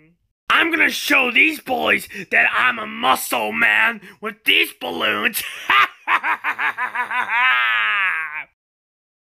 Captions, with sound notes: I'm gonna show these bullies that I'm a muscle man.... WITH THESE BALLOONS! (laughs)